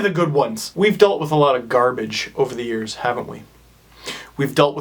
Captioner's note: inhales